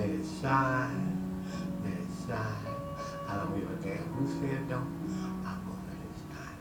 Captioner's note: none